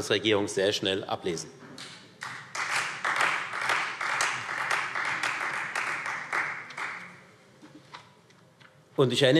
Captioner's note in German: Beifall Freie Demokraten